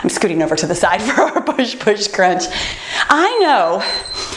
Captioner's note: timer beeps